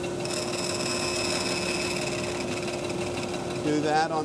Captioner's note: wood buzzes